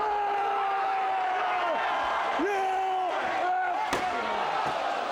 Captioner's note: crowd cheers